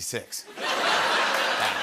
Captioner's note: laughter